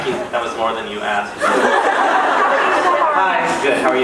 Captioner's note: laughs